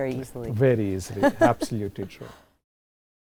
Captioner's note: laugh